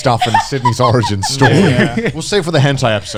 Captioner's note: laughs